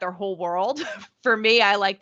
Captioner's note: chuckling